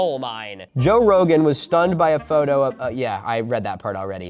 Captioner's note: regular voice